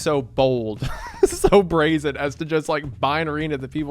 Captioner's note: laughs